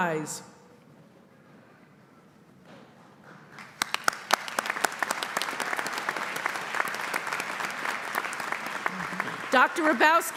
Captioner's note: applause